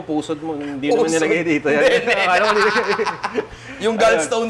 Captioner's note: laughs